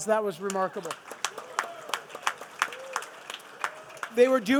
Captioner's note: participants applauding